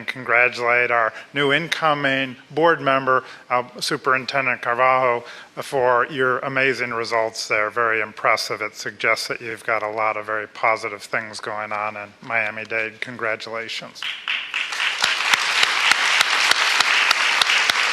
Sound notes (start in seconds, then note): 14.0 applause